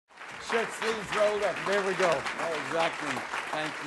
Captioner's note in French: Applaudissements